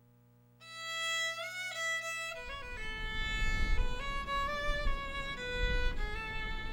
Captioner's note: lonely fiddle music; wind blowing